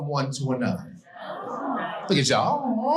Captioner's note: audience collectively "Aw"s